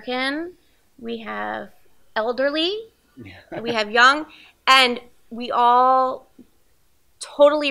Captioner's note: both laugh